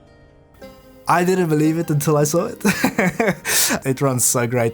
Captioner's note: laughs